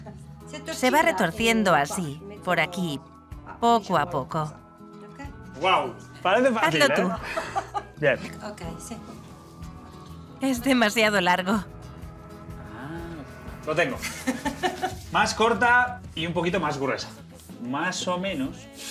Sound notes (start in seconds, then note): 14.0 laughs